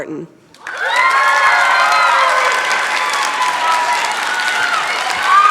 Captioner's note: cheering, applause